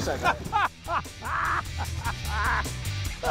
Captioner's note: laughing